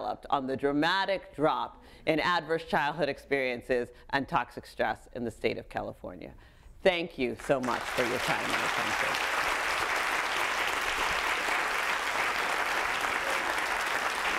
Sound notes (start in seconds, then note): 7.5 audience applauding